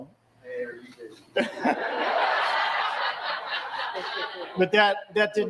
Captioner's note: laughter